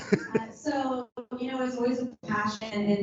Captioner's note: chuckles